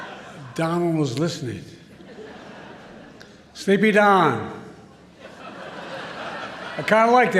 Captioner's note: laughter; laughter